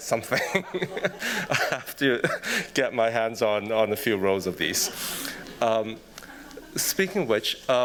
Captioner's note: chuckles